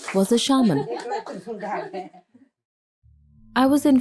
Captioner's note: indistinct conversation; laughter